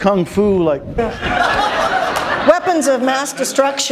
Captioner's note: laughter